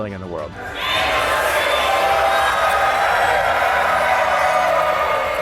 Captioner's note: crowd